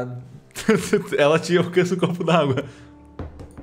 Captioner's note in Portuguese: riso